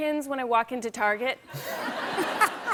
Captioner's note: laughter